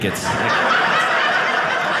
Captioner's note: audience laughing